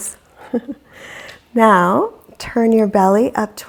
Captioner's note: deeply exhaling